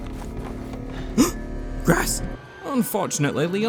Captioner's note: gasp